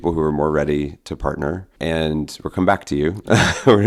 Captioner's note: chuckles